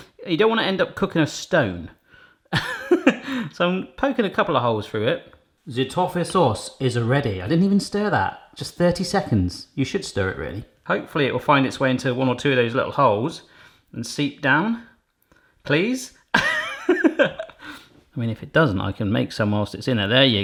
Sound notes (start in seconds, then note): 2.5 chuckling; 16.4 laughing